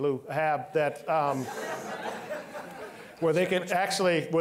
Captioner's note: all laughing